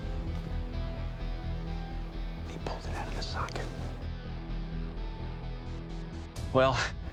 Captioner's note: whispering